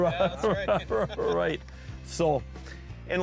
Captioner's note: voiceover